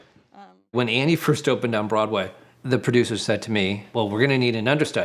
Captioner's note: narrating